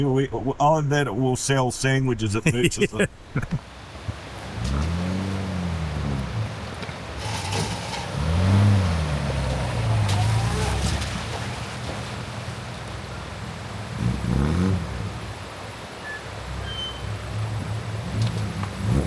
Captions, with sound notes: We will, oh, and then it will sell sandwiches at Murchison. (laughing) (engine revving)